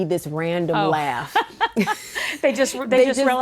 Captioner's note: laughter